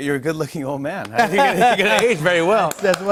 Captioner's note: laughter